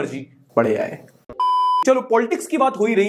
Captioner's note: beep